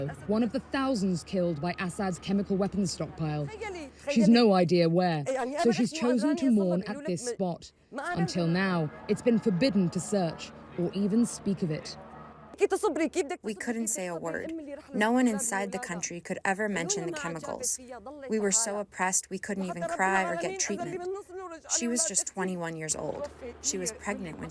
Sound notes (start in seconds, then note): 13.8 through translator